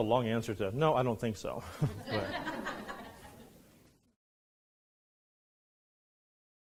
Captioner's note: students laughing